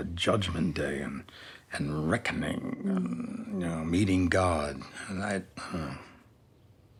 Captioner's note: sighs